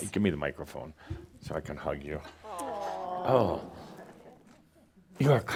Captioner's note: audience says “Awww” as they hug